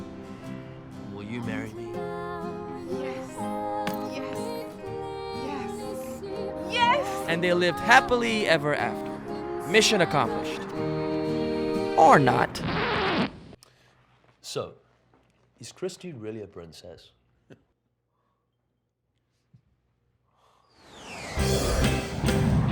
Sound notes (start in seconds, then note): 12.3 record skipping; 17.0 laughs; 18.6 whooshing sound; 22.3 upbeat music